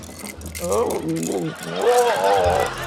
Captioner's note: gurgles